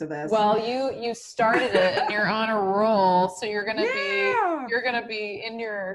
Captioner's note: laughter